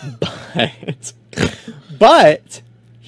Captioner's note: laughs